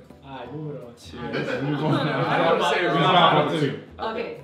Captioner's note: laughter